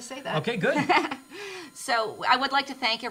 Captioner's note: laughter